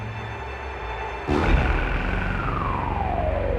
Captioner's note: trilling sound